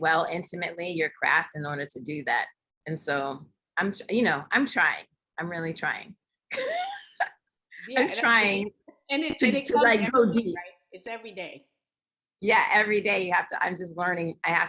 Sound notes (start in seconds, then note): 6.5 laughter